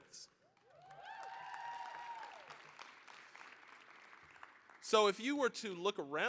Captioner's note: applause, cheering